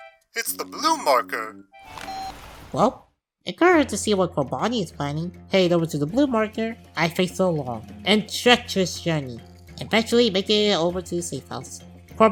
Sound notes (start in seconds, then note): 1.9 phone beep